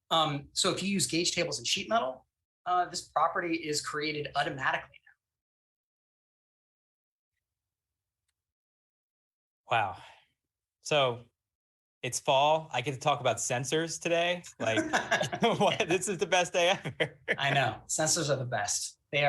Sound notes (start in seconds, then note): 16.7 laughs